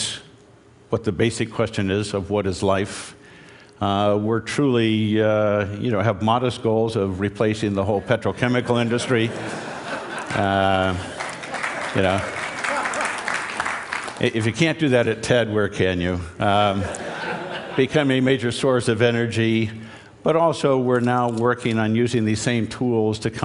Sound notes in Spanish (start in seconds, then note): 8.9 Risas; 10.9 Aplausos; 16.7 Risas